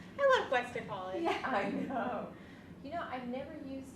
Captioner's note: laughs